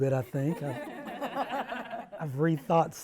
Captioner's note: panel laughs